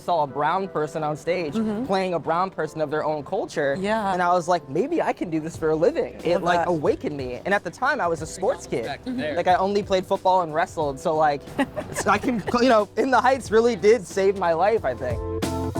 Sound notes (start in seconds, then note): 11.4 laughing